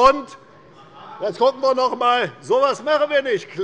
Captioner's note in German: Zurufe von der SPD